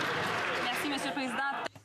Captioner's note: some Applause